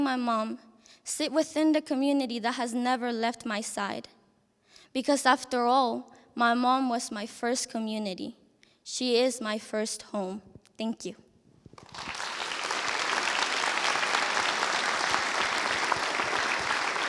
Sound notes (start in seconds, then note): 11.7 applause